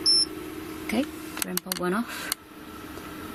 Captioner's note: beeping